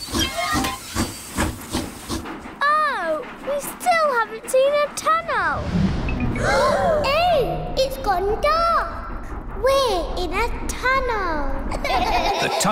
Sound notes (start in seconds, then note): 0.3 train chugs; 6.4 all gasp; 11.8 all laugh